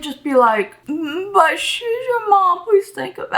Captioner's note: pretends to sound upset